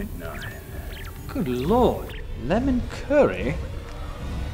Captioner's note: escaping gas